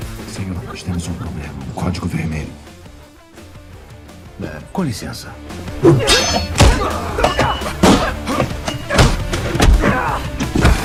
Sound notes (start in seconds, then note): 5.8 grunting continues